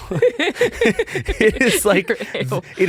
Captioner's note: laughing